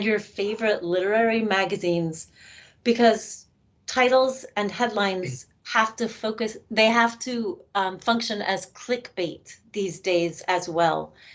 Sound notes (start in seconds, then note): none